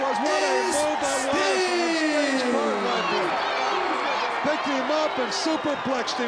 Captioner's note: crowd cheering